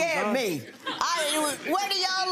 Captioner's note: audience laughing